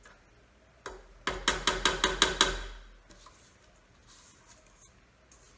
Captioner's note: spatula tapping